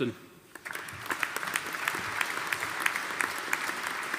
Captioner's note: audience applauding